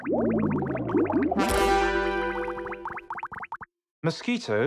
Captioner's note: mosquito buzzing, smack